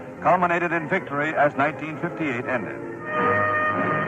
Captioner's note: archival news audio